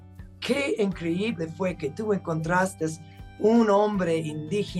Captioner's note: speaking Spanish